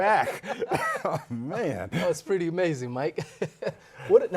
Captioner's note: laughs